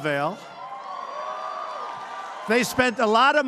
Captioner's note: applause